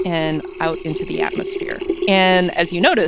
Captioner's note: water pouring